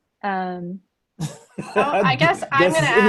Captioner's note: laughing